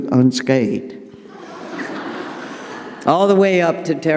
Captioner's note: audience laughing